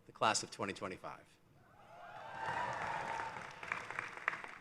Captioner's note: cheering